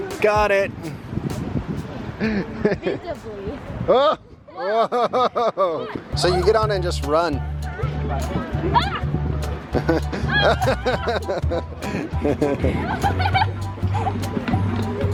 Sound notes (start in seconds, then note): 2.2 chuckling; 5.2 chuckling; 9.5 children laughing happily; 9.8 dad laughing